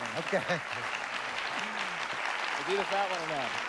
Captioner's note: applause